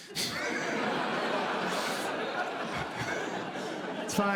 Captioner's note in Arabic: ضحك; يضحك